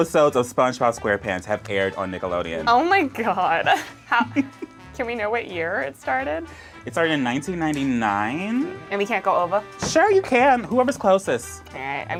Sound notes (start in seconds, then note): 3.6 laughs